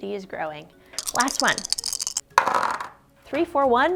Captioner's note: dice clunking